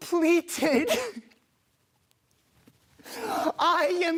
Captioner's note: rustling